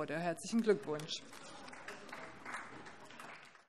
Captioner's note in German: Vereinzelter Beifall AfD